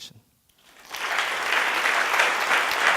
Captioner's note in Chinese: 掌聲